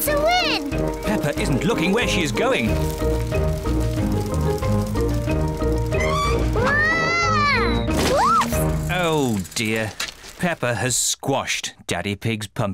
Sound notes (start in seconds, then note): 4.9 tires screech